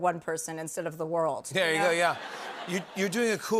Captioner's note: laughter